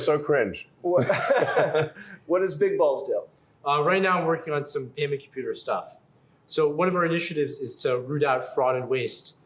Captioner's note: laughs